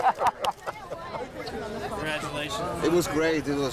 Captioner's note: laughing